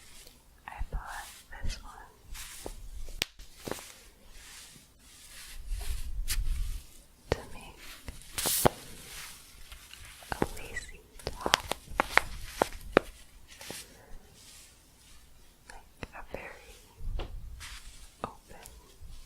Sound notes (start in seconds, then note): 3.3 staticky shuffling and crinkling; 13.2 staticky shuffling